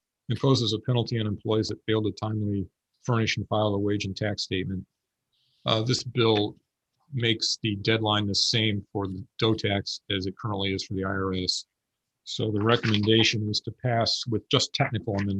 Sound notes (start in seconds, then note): none